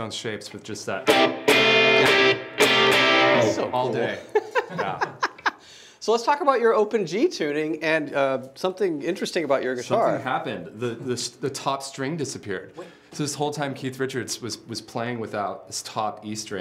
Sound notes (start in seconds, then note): 1.0 plays guitar; 4.0 laughs